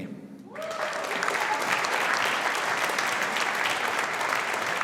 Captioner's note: audience applauding